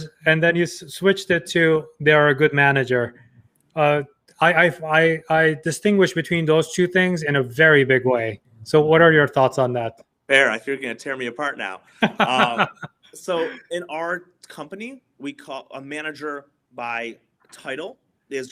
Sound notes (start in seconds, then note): 12.0 laughing